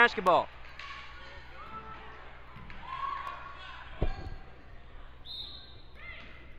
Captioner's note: crowd talking and yelling; whistle blows